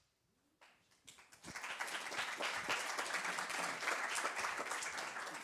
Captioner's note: applause